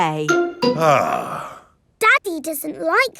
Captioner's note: sighs